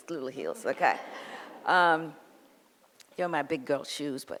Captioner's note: audience laughs